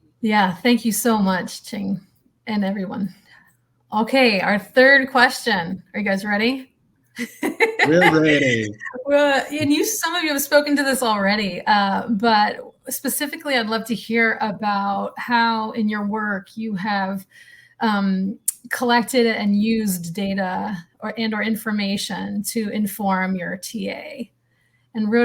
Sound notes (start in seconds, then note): 7.2 laughs